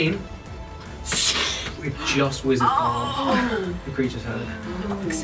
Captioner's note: swooshing sound